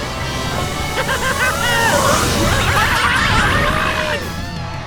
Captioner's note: laughing